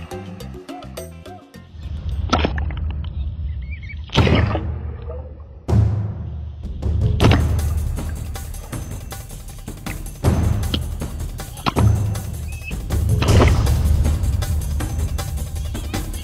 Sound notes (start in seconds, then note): 4.0 water splashing; 6.8 suspenseful drumming music